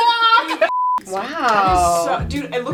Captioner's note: beep